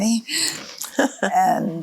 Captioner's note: laughs softly